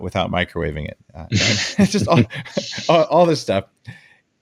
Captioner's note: light laughs